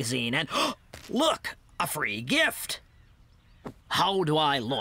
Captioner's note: gasp!